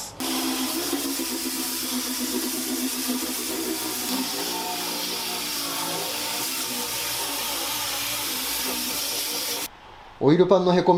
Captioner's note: working sound